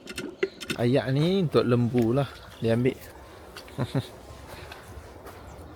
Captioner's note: laugh